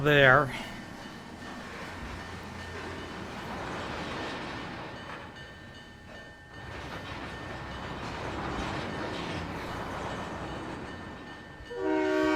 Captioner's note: train whistle